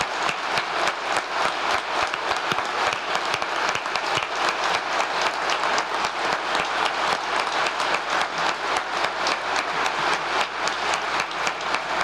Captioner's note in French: applause